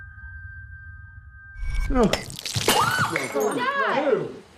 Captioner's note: screams